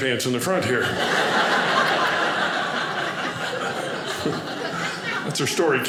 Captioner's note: audience laughing